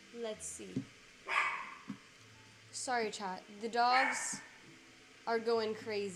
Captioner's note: dog Barking